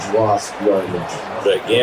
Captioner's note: crowd Noises